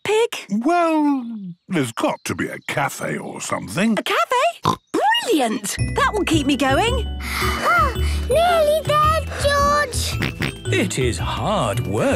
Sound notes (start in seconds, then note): 4.3 snorts; 7.1 panting; 10.0 snorts